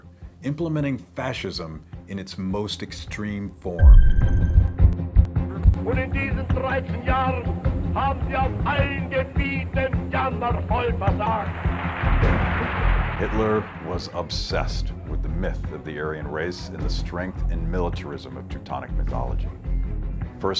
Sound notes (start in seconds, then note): 3.8 music intensifies; 6.1 speaking in German; 10.9 crowd cheering